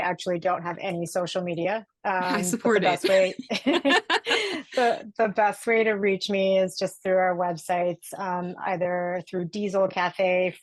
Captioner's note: laughing